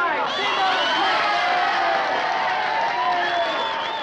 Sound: cheering

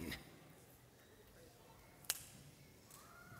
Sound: fingers snap

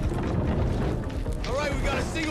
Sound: tense music; fire crackling

